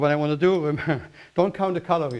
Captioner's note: chuckles